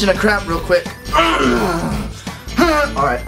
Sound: grunt

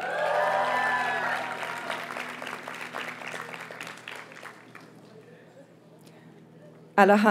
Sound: audience cheers and applauds

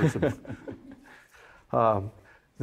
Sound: chuckling

